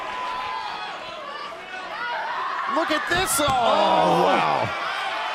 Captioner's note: crowd chatter